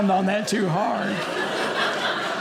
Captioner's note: audience laughing